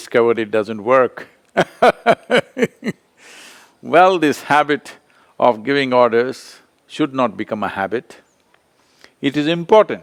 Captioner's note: laughs